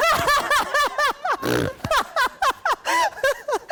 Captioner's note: laughing